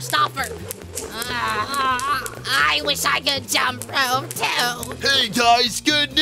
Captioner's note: groaning